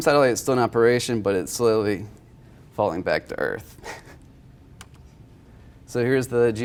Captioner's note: laughs